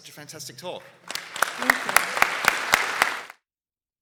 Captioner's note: applause